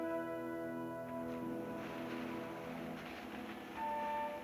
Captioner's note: leaves rustling